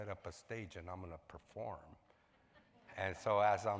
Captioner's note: audience laughs